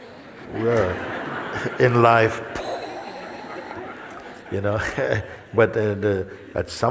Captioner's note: Lachen